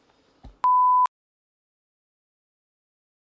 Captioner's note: beep